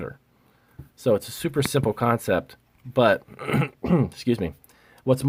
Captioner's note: clearing throat